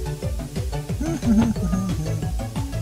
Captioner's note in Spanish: Tarareando para bajar estrés